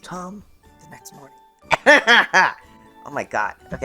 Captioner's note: coughing